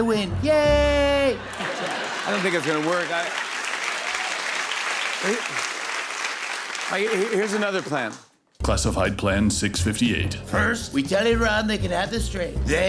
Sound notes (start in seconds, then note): 4.0 applause